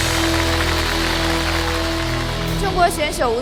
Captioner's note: the audience applauded